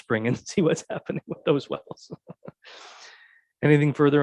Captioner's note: laughs